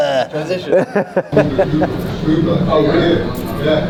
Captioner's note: laughing